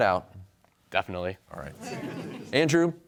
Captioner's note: audience chuckles